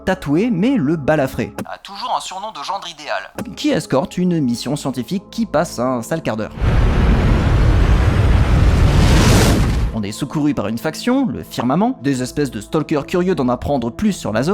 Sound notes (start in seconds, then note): 6.5 explosion